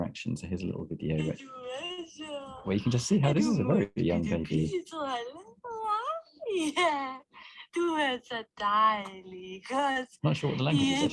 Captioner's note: sound of woman talking to baby